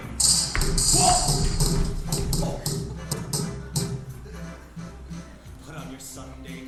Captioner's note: explosions popping